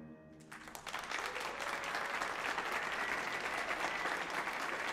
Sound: audience applauding

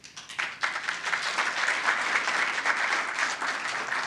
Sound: applause

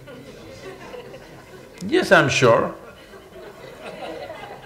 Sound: laughter

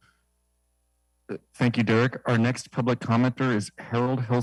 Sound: speaking foreign language

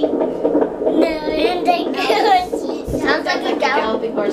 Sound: laughing

